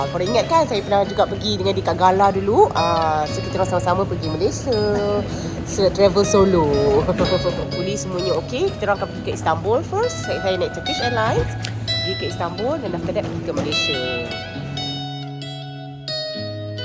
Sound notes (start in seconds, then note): 7.3 laugh; 14.8 background music